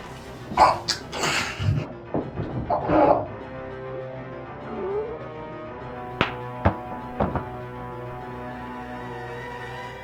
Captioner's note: strangulation noises; neck snap; thud